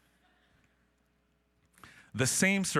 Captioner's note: audience laughing